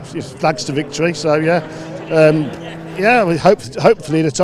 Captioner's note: engines roaring